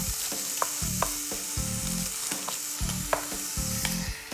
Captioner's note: meat sizzling